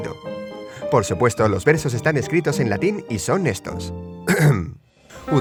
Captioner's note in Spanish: aclarar voz